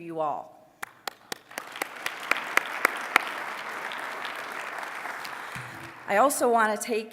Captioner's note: applause